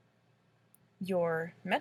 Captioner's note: click